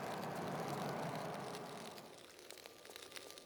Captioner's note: fire noises ♫